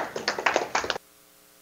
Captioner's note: audience applause